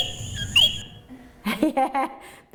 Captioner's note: frog chirp; laughs